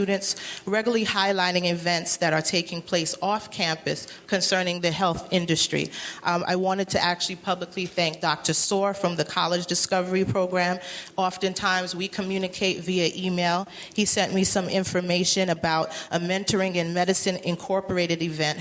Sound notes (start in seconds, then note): none